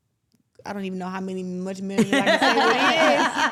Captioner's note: everyone laughs